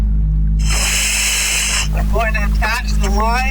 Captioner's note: oxygen pipe whirling